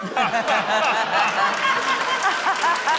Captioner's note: laughter, applause